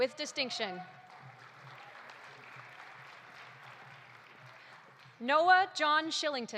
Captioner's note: audience applauding